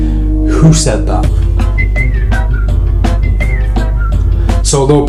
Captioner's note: whistling